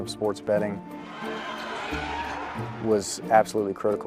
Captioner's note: crowd cheering